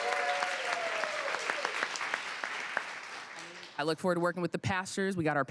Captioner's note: applause